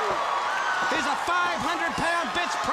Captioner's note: crowd cheering